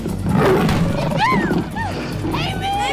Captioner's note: Roars; Screams